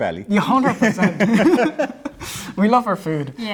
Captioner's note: all laughing